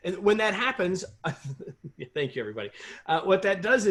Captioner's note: laughter